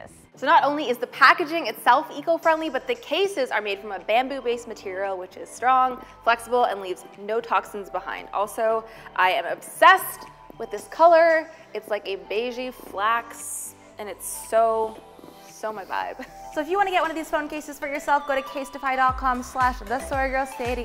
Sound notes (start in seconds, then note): 15.6 laughs